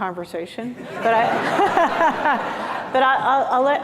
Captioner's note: laughter